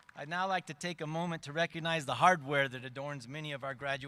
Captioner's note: applause